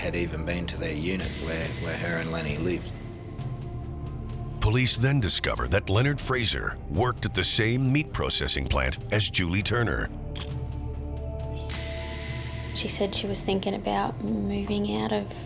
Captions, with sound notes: HAD EVEN BEEN TO THE UNIT WHERE HER AND LENNY LIVED. POLICE THEN DISCOVER THAT LEONARD FRASER WORKED AT THE SAME MEAT PROCESSING PLANT AS JULIE TURNER. (camera shutter click) SHE SAID SHE WAS THINKING ABOUT MOVING OUT